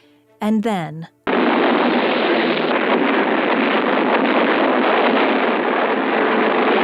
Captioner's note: explosions boom; winds gusting